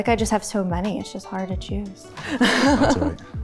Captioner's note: laughs